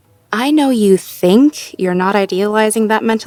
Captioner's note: none